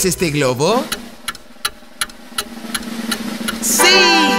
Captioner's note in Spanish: Sonido de reloj